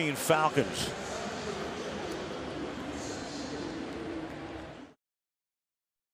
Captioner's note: pa announcement